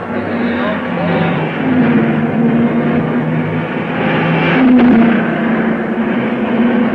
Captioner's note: cars revving; dramatic music